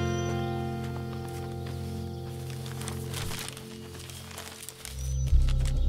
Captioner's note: Paper ruffling; Footsteps